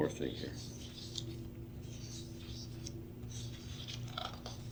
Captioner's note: papers rustling